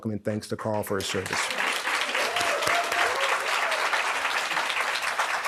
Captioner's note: audience cheering